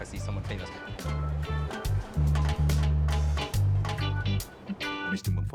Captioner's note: train rumbling; bright reggae music